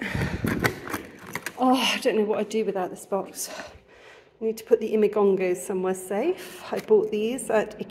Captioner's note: sigh